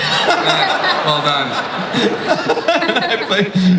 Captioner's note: audience laughs